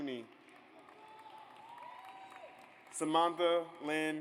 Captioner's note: audience applauds